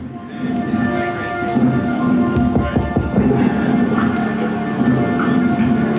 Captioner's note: monsoon sounds over music bed